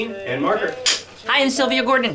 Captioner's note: clapboard slapping